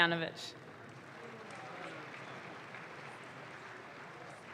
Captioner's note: audience claps